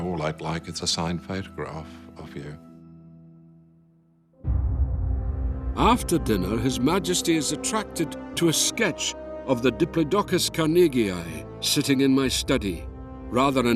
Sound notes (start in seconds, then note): 6.2 Voz en off